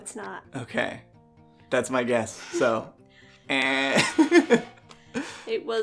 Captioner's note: buzzer fail